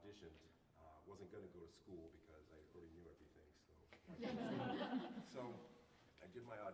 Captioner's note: laughter